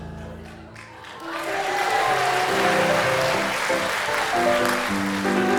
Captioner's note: audience applauding